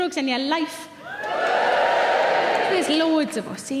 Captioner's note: audience cheers